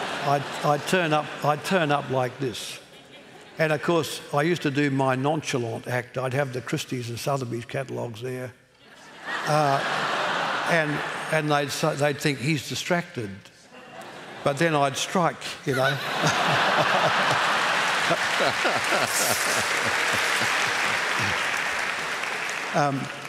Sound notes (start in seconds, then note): 0.0 laughter; 9.0 laughter; 15.7 laughter; 17.7 applause